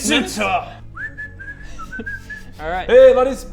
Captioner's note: whistling